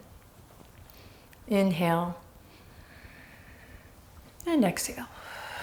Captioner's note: deep breath; deep breath